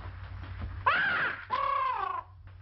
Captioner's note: parrot squawks and breaks glass bulb